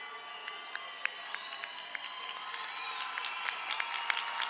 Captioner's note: crowd applauding